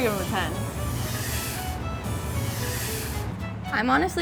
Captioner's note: imitates escaping air